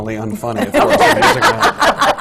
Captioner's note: laughter